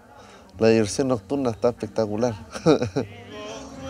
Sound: laughs

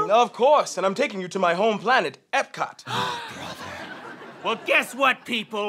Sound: gasp

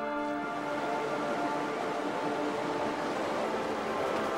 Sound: water runs

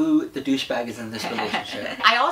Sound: laughs

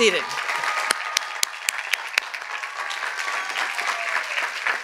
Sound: cheers and applause

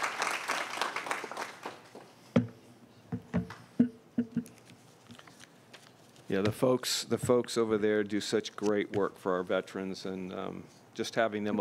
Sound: applause

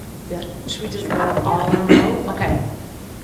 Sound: murmuring

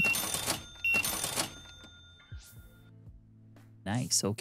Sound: beeping

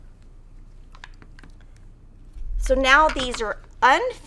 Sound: none

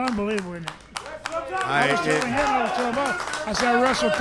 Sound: clapping

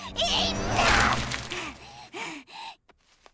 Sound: breathing heavily

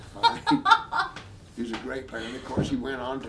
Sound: laughing

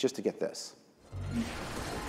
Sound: rocket launching

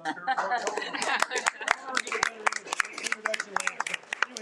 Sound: audience clapping

